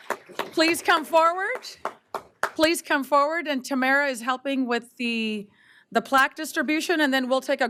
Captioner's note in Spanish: aplausos